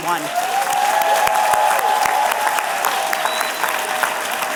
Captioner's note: applause